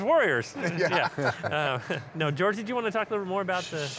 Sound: laughing

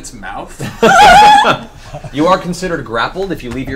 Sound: all laugh

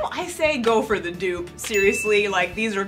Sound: ding

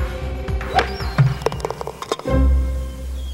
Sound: thud and rattling

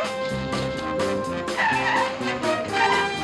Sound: tires screeching

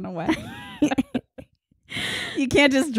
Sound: laughing

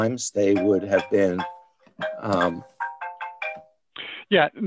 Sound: phone rings

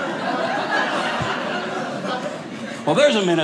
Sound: audience laughing

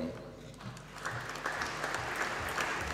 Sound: applause

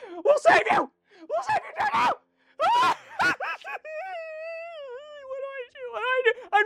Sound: crying

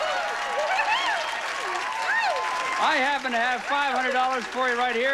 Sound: audience applauding

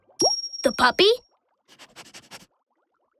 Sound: sniffing

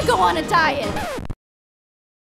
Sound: record scratch

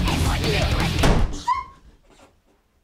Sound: fist slam, whimper

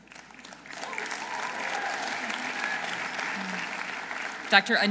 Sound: audience applauding

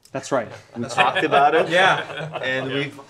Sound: all laughing

